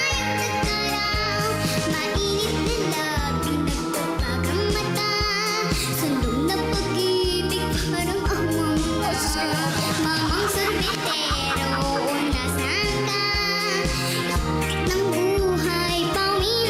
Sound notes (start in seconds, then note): 11.4 laughs